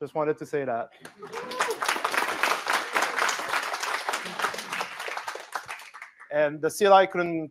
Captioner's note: applause